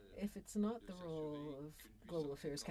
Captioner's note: speaking French